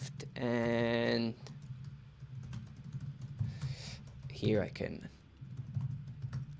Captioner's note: keyboard clattering